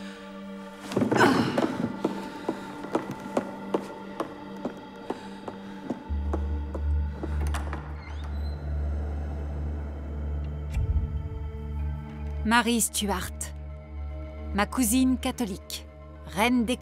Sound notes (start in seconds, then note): 0.1 dramatic music; 7.1 door creaks; 10.8 dramatic music